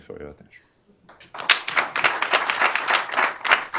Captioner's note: applause